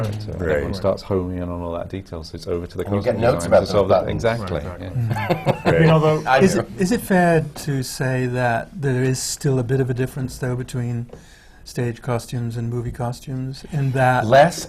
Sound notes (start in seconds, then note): 4.9 laughter